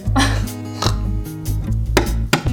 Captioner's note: snorting laugh